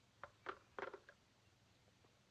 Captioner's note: click